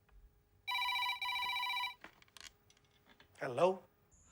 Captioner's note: phone ringing